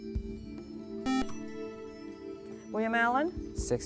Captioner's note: buzzer